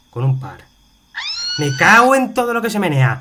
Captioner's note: shout